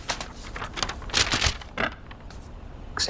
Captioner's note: paper rustling